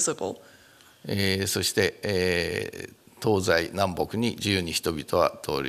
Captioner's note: speaking japanese